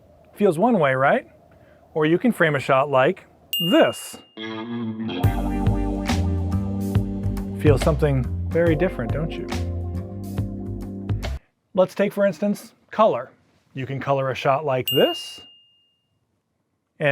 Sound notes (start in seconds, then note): 3.5 ding; 5.2 upbeat music; 14.9 ding